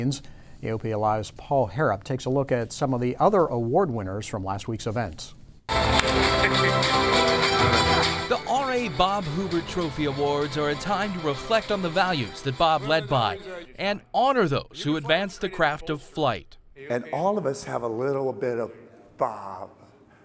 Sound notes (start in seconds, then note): 5.7 crowd applauds; 6.0 lively music